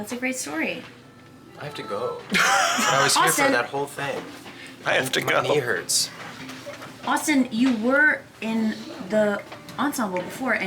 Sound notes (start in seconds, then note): 4.5 laughs